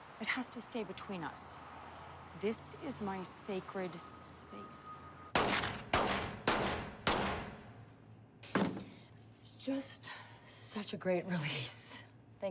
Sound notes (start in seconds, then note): 5.3 Claire shooting